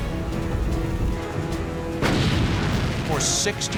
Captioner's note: explosion